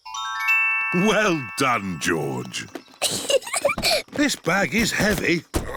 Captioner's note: peppa giggles; grunts